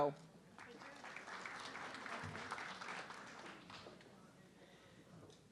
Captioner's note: audience clapping